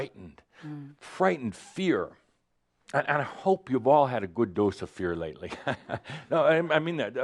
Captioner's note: chuckles